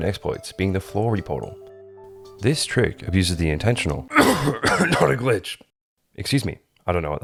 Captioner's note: coughing